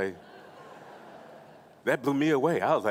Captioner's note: laughing